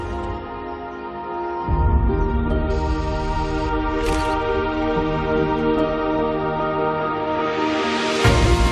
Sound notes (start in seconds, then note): 1.6 birds chirping; 3.4 camera whirs and clicks; 8.3 uplifting music playing